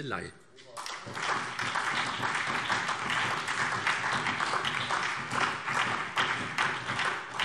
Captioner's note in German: Beifall SPD, BÜNDNIS 90/DIE GRÜNEN und DIE LINKE